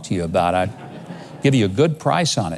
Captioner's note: audience laughs